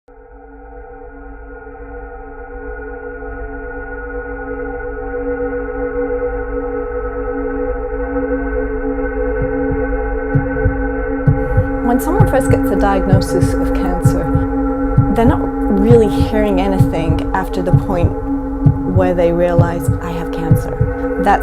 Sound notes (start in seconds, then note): 0.3 ethereal music; 10.1 heart beating